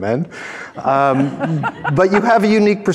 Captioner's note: all laughing